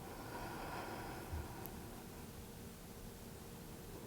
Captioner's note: inhales; exhales